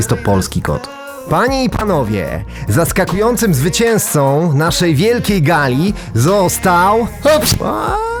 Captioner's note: achoo